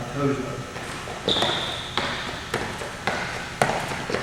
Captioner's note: foot snapping ground